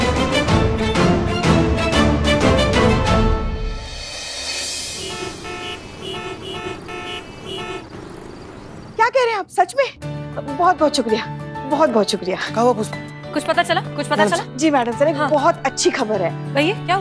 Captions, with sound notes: [dramatic music] [traffic noises] What? Really? Yes, thank you so much. Did you find anything? - Yes, maddam sir. I have great news. - What is it?